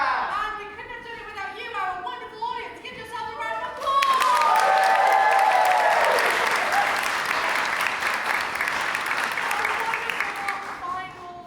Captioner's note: audience claps and cheers